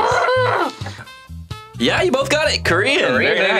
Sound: exclaims

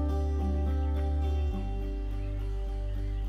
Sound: none

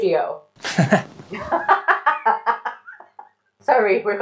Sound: laughing

